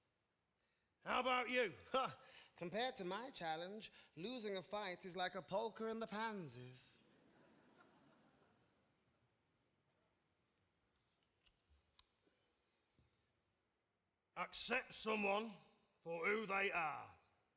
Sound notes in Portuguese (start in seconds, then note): 7.2 audience laughing